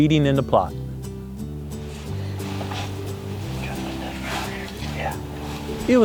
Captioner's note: whispering